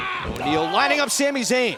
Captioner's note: shouting